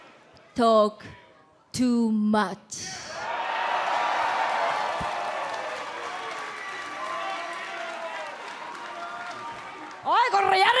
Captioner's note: crowd cheering